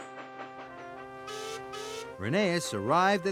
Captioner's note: beep beep